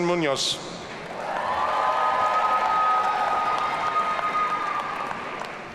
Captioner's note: audience cheering